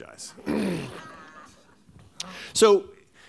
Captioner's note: laughter